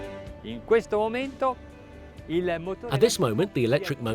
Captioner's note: speaks in foreign language